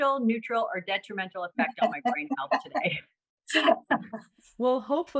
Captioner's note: laughter